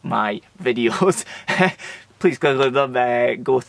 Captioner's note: laughs